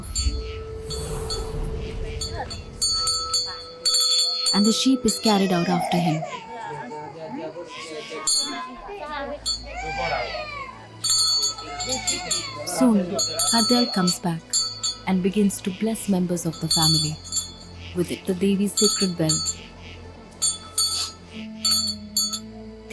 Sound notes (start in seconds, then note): 0.0 bells jingling; 0.0 dramatic music; 6.3 child crying; 20.4 bell jingling